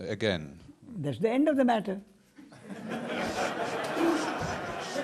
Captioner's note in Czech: smích